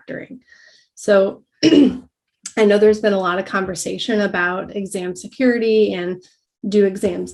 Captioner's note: cough